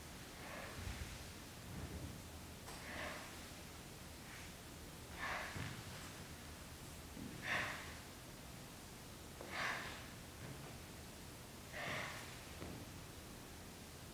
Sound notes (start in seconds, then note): 1.1 dancer breaths loudly, rhythmically with floor scoots